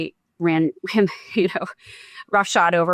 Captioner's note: chuckles